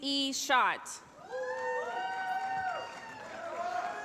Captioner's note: cheering